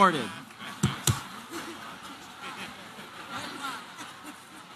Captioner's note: laughter